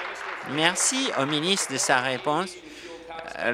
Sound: applause

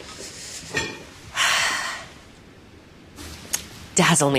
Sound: sighs

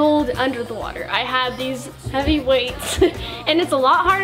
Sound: laughs

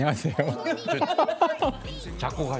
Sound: failing to hold his laughter back

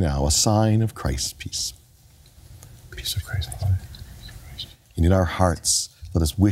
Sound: whispering

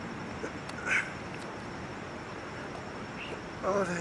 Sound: grunts

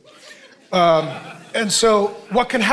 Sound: congregation laughing

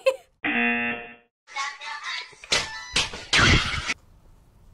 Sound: slapping noise

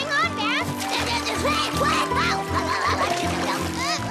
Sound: panicked shouts

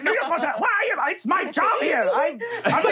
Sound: stammering

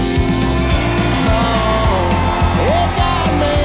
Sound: audience cheering

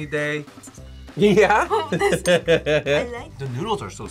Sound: laughs

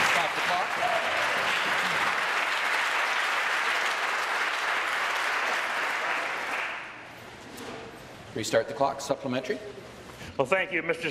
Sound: applause

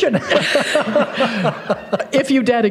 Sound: laughter

